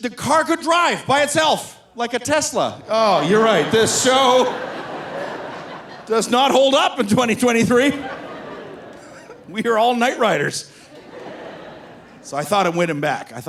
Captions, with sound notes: The car could drive by itself. "Like a Tesla?" Oh, you're right. This show does not hold up in 2023. (laughs) We are all night riders. So I thought I'd win him back.